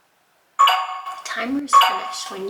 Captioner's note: computer chimes